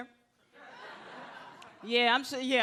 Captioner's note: audience laughs